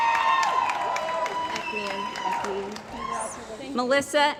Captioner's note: cheering & Applause